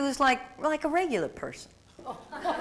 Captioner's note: laughter